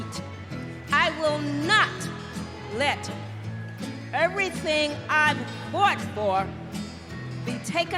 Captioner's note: cheers and applause